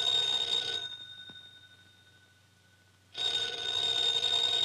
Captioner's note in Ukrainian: дзвінок